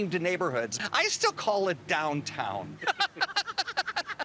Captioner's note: laughing